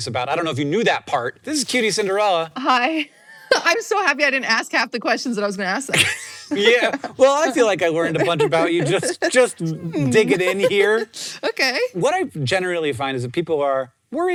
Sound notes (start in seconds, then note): 3.4 laughs